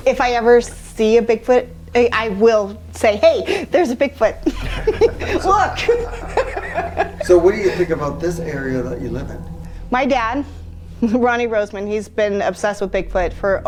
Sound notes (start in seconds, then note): 3.2 laughing; 6.4 both laughing